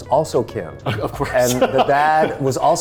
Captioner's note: laughing